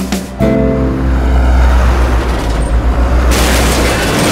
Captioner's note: Truck crashing